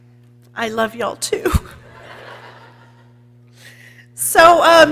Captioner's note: people laughing